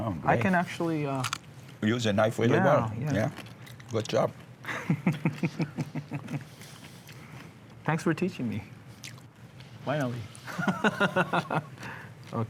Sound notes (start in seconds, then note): 4.7 laughs; 10.5 laughs